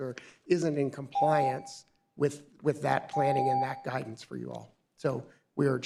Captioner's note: beep